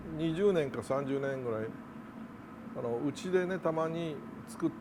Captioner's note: speaking in Japanese